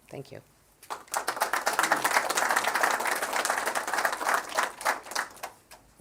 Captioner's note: applause